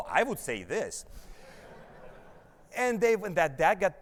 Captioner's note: audience laughs